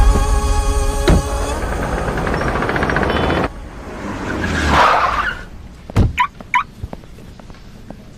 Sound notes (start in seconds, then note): 4.6 brakes squeal; 6.0 car alarm chirps